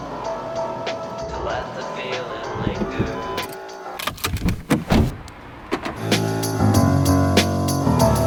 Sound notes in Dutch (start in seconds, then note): 3.9 auto geluiden